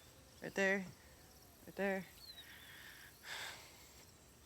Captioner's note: sighs